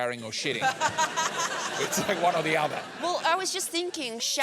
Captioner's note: laughs